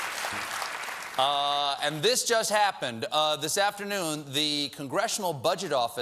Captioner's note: cheers and applause